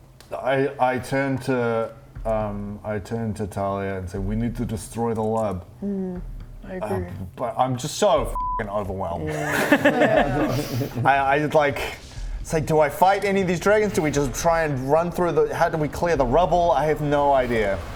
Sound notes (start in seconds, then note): 9.3 sadistic GM laughter